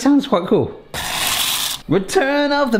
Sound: pasta splashing into water

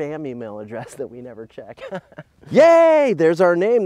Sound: laughs

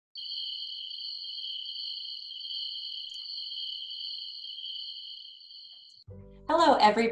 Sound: sound of crickets chirping

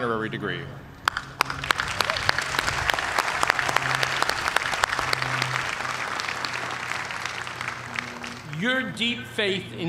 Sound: applause

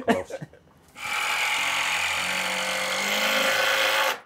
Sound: tool whirring

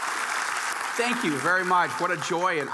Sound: audience applauding

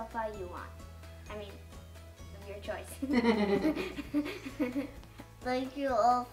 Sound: laughs

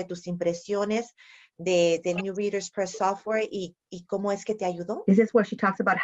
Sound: speaking spanish

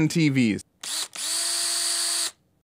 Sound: sound of drill

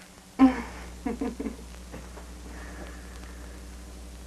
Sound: Bianca chuckles

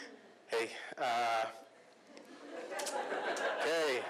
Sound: laughter

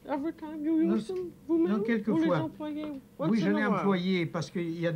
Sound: speaking French

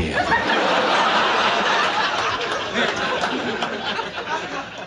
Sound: audience laughs

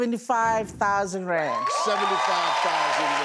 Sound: audience applause

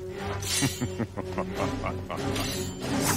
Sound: laughing

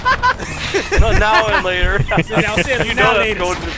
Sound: laughing

